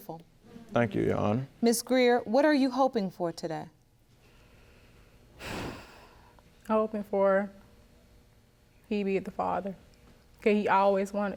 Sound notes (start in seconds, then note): 5.4 sighs